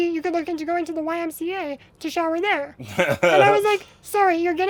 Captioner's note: laughs